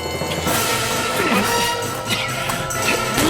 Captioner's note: grunts, fighting